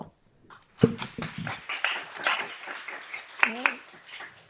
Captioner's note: audience clapping